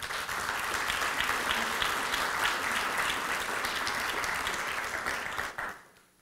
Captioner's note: applause